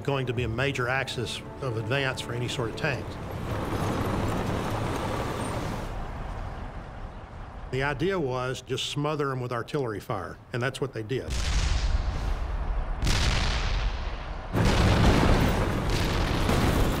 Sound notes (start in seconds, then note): 3.6 tanks rumbling; 11.3 cannon shots exploding; 11.7 rapid gunfire exploding